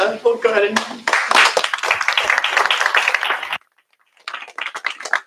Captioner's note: applause